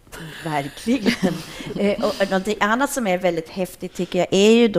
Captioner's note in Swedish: skratt